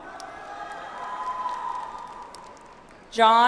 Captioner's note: audience applauds